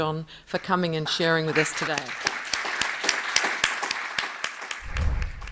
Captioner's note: audience applause